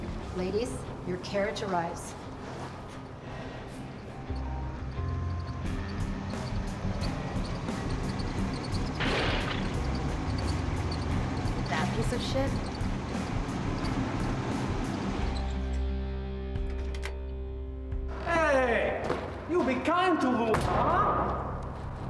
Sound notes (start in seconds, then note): 8.4 engine bangs; 14.3 engine bangs